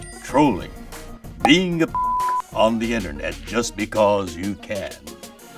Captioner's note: beep